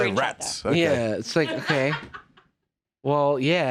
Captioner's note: laughs